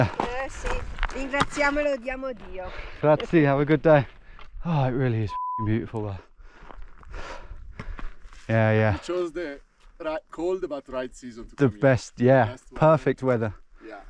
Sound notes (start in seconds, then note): 0.2 hiker speaking in Italian; 5.3 beep